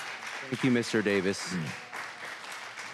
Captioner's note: applause